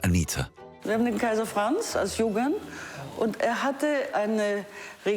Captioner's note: speaking foreign language